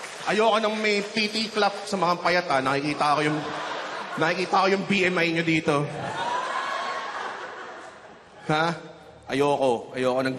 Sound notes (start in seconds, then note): 5.9 laughter